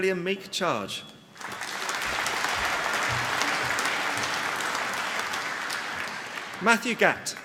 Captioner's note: applause